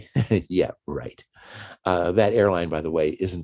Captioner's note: chuckles